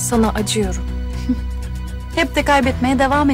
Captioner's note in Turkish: Gülme sesi